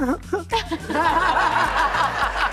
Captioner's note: laughter